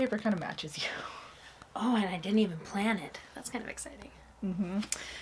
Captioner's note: laughs